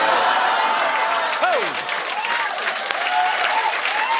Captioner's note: cheers and applause